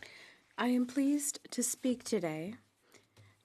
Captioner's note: speaking French